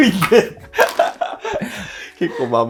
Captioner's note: laughing